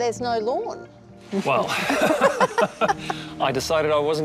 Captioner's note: all laugh